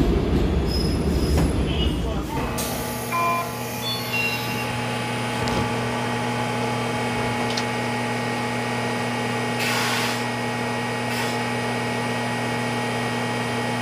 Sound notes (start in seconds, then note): 9.4 line breaker noise, compressor sound, brake noise